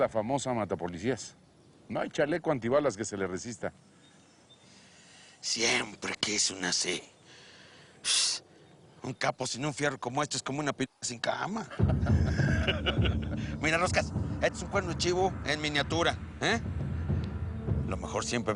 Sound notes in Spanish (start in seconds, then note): 11.6 Risas